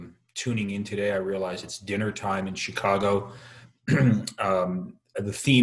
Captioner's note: clears throat